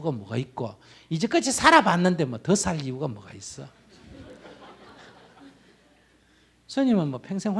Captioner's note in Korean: 청중 웃음